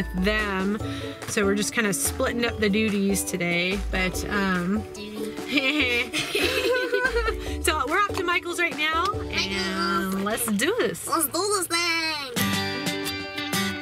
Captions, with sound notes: So we're just kind of splitting up the duties today. - Doodie. (laughing) - So we're off to Michale's right now, and let's do this. - Let's do this thing!